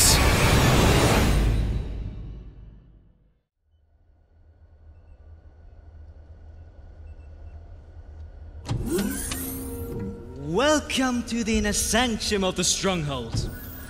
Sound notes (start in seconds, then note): 8.6 electric door opens